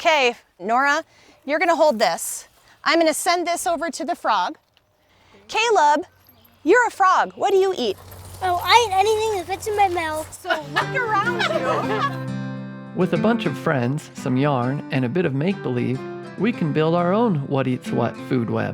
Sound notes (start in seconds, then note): 10.3 all laughing